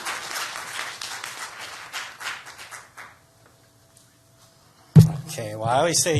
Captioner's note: applause